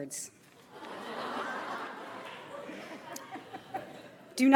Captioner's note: audience laughs